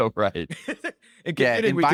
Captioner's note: laughs